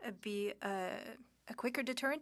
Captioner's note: speaking French